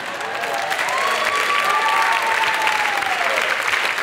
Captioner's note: audience clapping